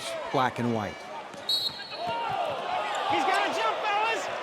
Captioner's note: whistle blows